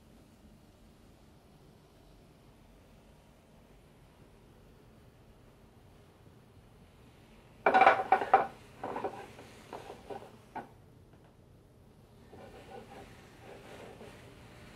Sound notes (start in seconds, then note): 9.4 sizzling